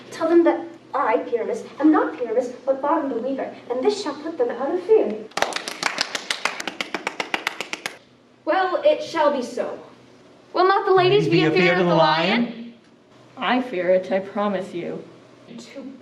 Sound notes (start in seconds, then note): 5.3 group applauding